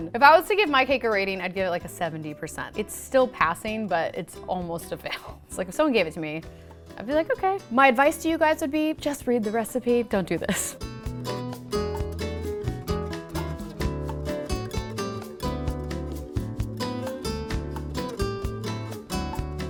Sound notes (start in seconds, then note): 11.1 laughs; 11.6 upbeat music